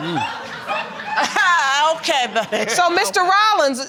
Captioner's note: audience laughing